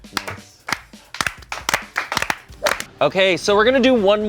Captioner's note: everyone applauds